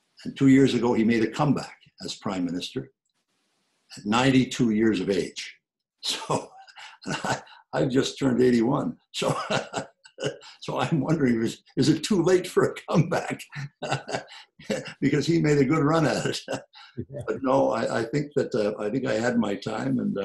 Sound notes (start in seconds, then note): 9.4 laughs; 14.3 laughs